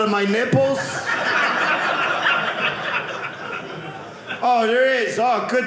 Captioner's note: audience laughing